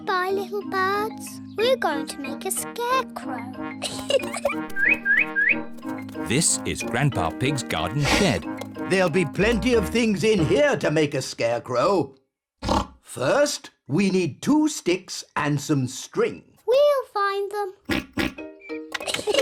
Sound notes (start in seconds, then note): 3.8 giggles; 4.7 bird tweets; 12.6 oinks; 17.8 oinks